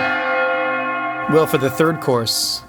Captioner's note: church bells chiming